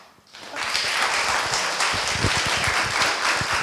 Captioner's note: applause